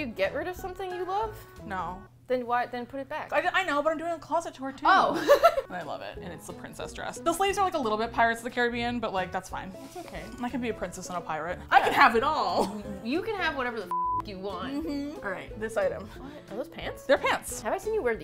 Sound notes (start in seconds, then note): 5.0 laughs